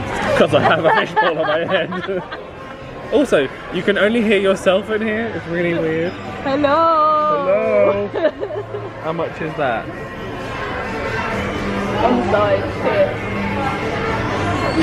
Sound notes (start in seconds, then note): 8.0 laughs; 10.5 upbeat background music